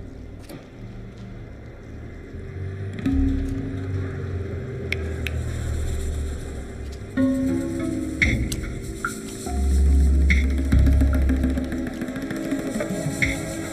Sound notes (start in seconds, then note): 4.9 fingers snapping; 5.5 suspenseful music